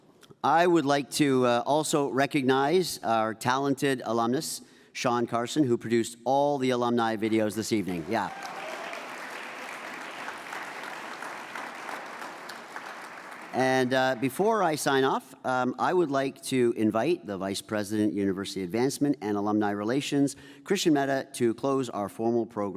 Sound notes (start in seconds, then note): 7.8 audience applauds